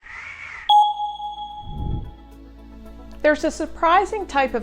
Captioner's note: logo blings